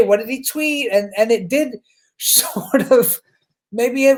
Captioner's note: chuckles